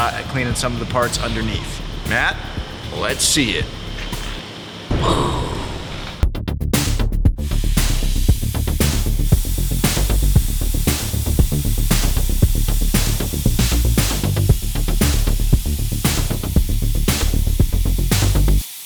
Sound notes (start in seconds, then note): 4.9 explosion thunders; 6.5 fast exciting music; 7.7 machine hissing